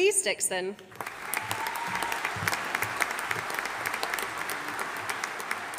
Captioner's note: audience applauding